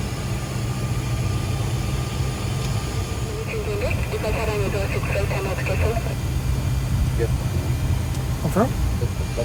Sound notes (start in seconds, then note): 3.6 air traffic controller on speaker